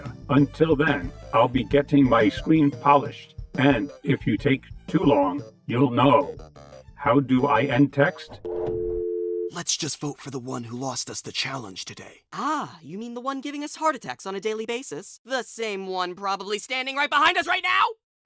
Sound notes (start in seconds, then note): 8.4 dial tone; 9.4 hushed